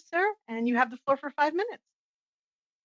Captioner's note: speaking French